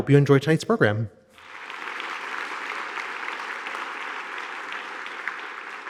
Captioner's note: audience applauding